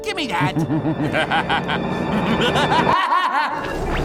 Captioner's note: evil laugh